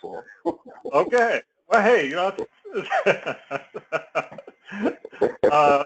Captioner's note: laugh